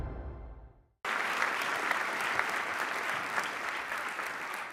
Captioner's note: audience applauds